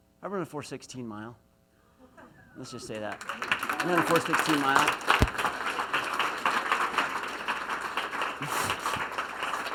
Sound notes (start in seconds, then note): 1.8 laughs; 3.6 applause